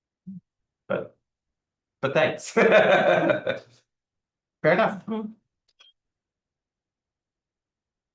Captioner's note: laughs